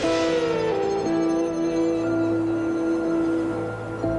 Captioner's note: birds chirping